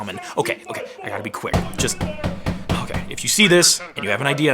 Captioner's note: muffled yelling; door banging